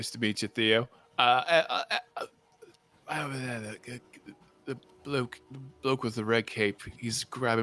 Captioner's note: stutters